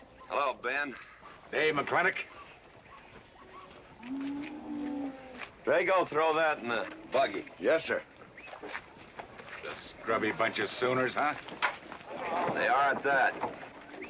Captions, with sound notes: Hello, Ben. - Hey, McLintock. (cattle mooing) - Drago, throw that in the buggy. - Yes, sir. - That's a scrubby bunch of sooners, huh? - They are, at that.